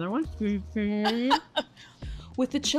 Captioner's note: laughs